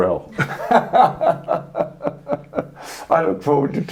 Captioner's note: both men are laughing